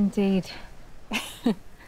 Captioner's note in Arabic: ضحكة مكتومة